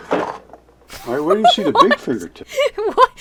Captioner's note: laughs